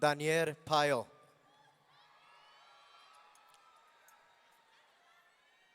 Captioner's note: audience cheering